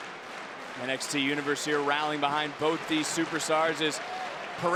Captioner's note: applause